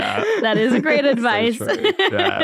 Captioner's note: everyone laughing